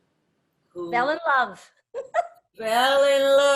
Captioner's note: laughs